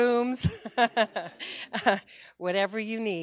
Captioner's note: laughter